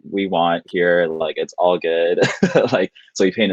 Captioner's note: laughing